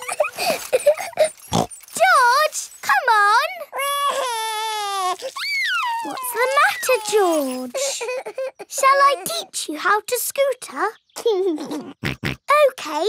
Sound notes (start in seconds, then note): 0.0 laughs and snorts; 3.5 crying; 11.3 laughs and snorts